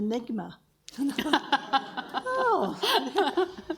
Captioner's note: audience laughs